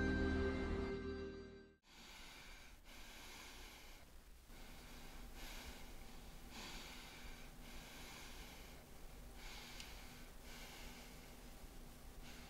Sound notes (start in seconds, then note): 1.8 fast breathe sound